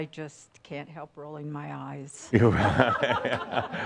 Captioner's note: laughter